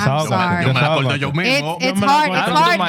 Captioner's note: speaking Spanish